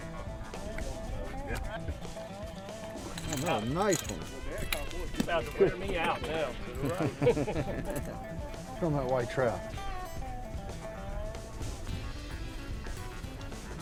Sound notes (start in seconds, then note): 0.6 upbeat country music; 7.2 men laughing; 10.9 upbeat country music